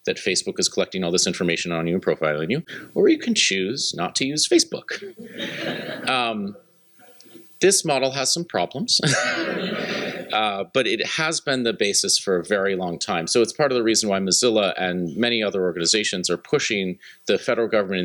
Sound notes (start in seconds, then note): 5.0 laughter; 9.0 laughter